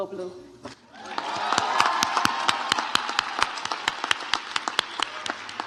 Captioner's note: audience applauds